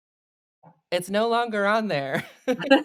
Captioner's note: both laugh